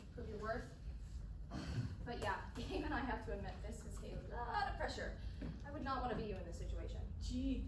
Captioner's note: sigh